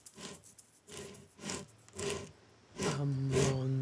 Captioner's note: sandpaper scratches